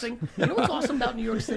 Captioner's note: laughs